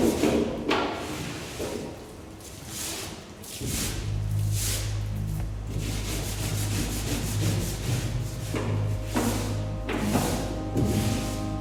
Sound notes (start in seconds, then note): 3.4 scrubbing noises continues; 7.8 piano music plays